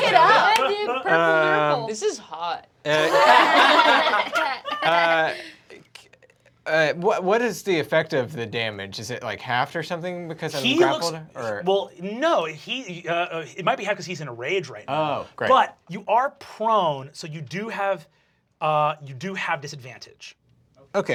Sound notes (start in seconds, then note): 0.0 they clap and cheer; 2.9 laughter